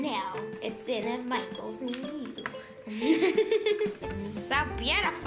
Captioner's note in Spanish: risas